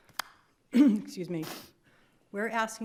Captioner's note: clears throat